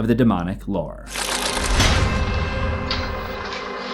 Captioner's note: impact